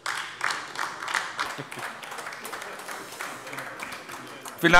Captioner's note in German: Beifall AfD